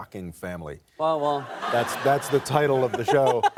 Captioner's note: laughter